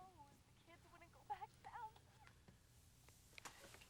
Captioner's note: woman on telephone fussing